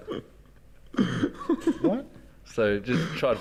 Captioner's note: giggles